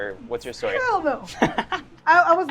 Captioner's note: laughs